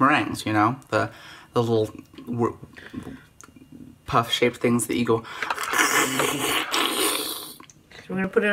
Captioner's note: horrible crunching noise